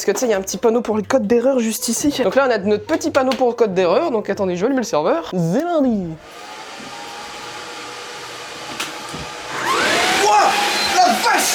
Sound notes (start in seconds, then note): 6.2 fan noise; 8.9 fan noise intensifies